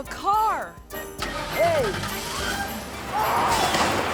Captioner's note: engine whirring; resident yelling